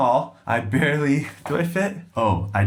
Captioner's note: laughing